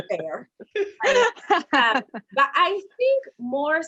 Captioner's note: all laughing